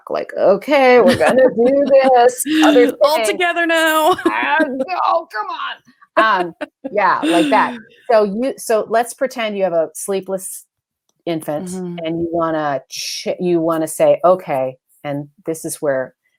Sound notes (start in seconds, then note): 1.0 laughs